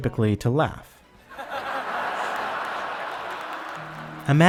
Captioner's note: audience laugh and clap